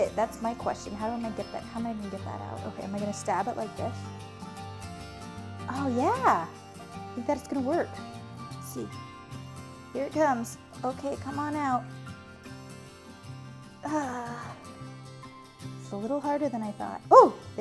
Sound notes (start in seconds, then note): 13.8 sighs